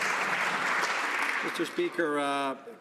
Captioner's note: some Applause